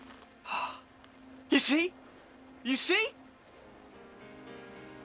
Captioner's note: gasps